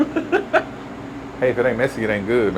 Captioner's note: laughs